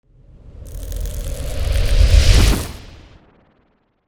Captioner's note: wind crescendo